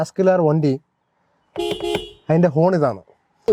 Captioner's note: beeps horn